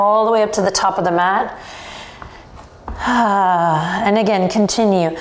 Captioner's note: sighs